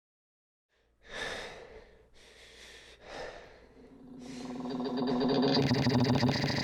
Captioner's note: Kyle breathing heavily; electronic whirring